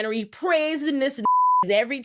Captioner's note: beep